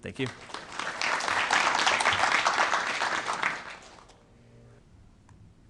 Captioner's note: applause